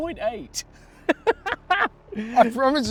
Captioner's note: laughs